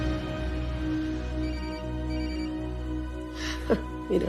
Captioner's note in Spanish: Suena un celular